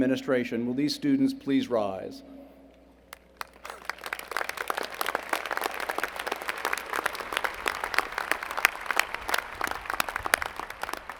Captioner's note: applause